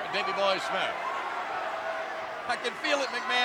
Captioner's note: crowd yelling